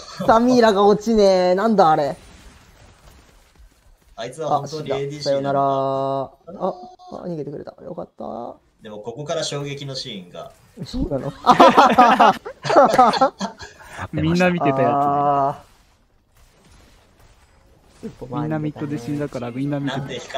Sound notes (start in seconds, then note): 11.2 laughs